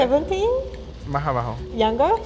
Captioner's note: speaking Spanish